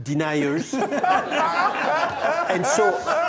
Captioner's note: laughs